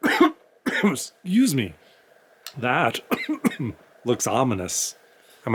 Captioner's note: coughs